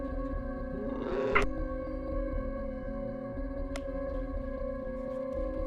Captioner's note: strange animal cry